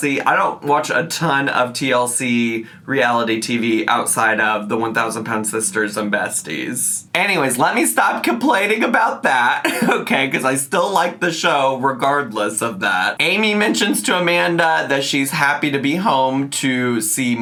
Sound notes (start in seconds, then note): 9.5 laughs